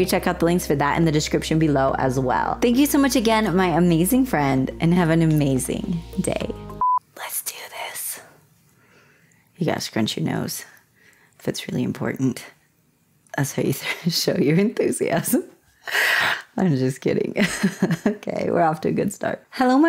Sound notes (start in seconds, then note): 6.8 blooper beep; 7.0 whispering; 17.4 laughter